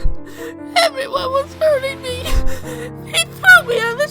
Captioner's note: sob